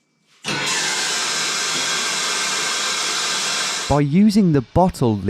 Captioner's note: tap pouring loudly